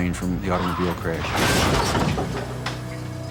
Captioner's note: crashing